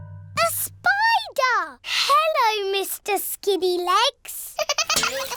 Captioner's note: giggling